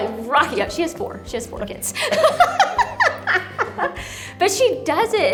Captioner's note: laughs